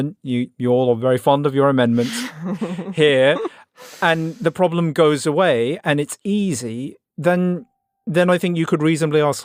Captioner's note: laughs